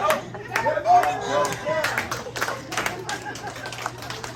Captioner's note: applause